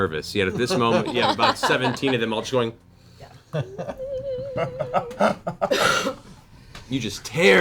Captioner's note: high-pitched whine